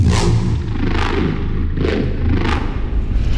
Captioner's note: outro revving